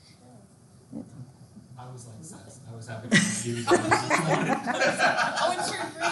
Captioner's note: students mumbling and laughing